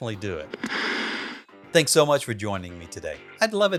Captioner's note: static sound effect